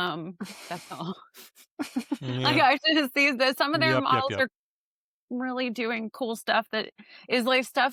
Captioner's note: laughter